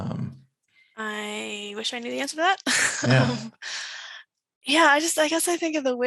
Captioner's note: chuckles